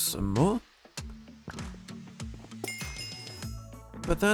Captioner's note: levelling up sound